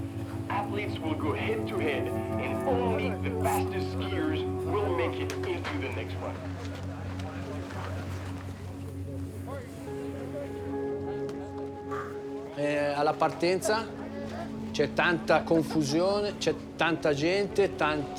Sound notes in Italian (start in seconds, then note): 9.7 chiacchierio di persone; 12.6 parla in italiano